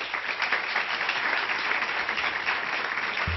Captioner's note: clapping